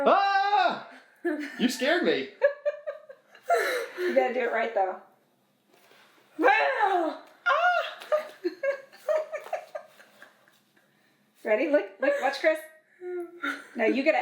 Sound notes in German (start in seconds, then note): 2.4 kichern; 7.8 lacht